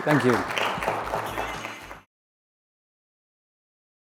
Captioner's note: applause